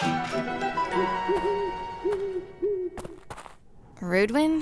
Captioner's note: owl hooting